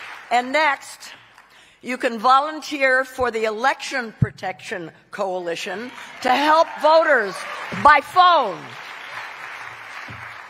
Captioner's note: cheering